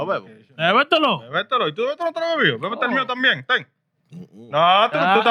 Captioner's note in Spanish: Hablando en idioma extranjero